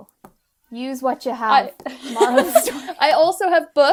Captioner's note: both laughing